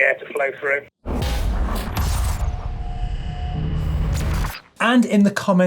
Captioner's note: electronic whirring